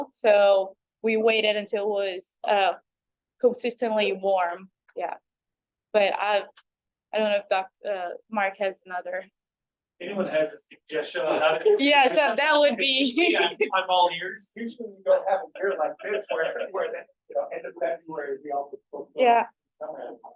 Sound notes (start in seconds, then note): 16.9 speaks faintly; 19.3 speaks faintly